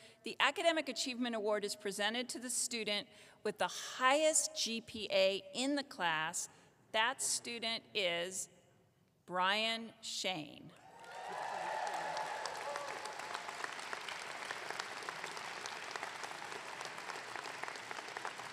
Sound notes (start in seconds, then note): 10.9 audience clapping